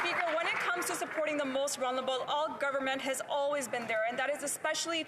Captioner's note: applause